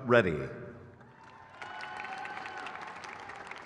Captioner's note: crowd cheers